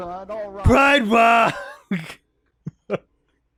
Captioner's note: laughs